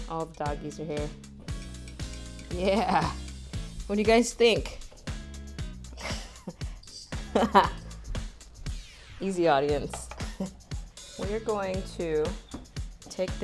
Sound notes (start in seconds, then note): 5.9 laughs